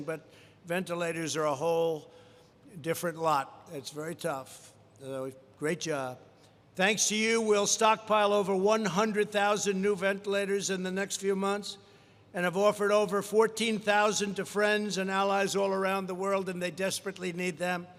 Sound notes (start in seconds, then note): none